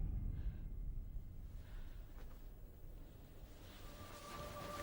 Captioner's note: Louise breathing hard; tense music continues